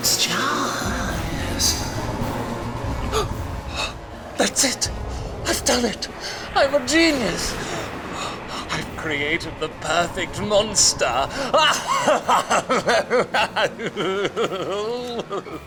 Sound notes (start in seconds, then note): 2.9 gasps; 6.7 thunder rumbles; 10.8 cackles